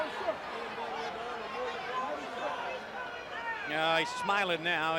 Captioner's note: crowd chatter